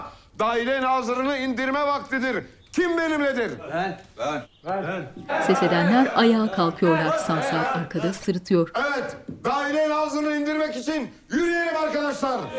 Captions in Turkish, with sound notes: ...Dâhiliye Nazırı’nı indirme vaktidir. Kim benimledir? Ben. Ben. (Hep bir ağızdan) Ben. Evet, Dâhiliye Nazırı’nı indirmek için yürüyelim arkadaşlar.